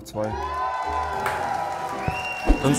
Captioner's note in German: Jubel